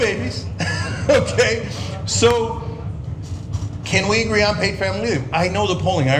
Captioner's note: laugh